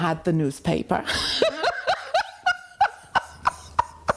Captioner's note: laughs